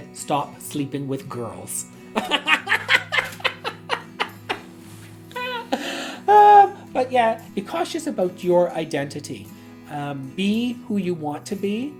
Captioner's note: laughs